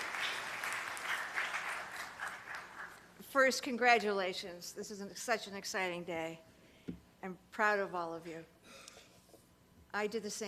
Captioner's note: applause